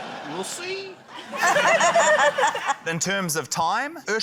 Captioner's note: laughter